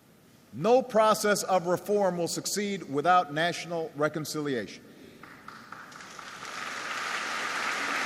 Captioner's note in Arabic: تصفيق